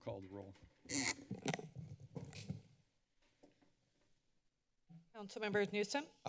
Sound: mic squeaks

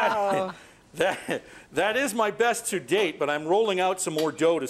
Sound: laughter

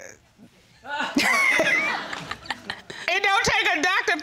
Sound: laughs

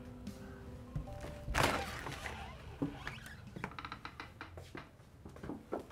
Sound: door opens

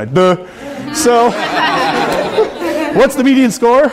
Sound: audience laughing

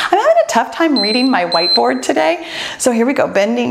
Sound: timer beeps

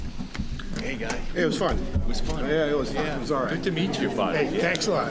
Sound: crowd murmuring

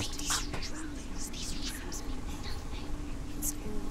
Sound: whisper; whispering

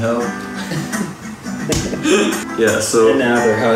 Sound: laughs

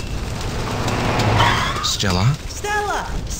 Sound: car stopping

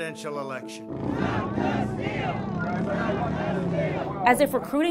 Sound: chant

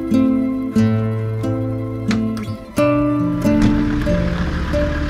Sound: car door slams; Landrover engine roaring

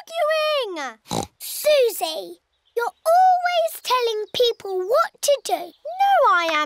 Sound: oinks

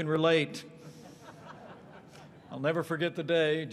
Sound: laughter

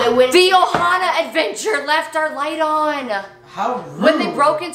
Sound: gasping

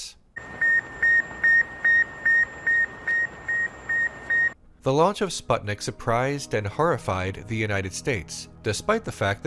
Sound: beep, beep, beep, beep

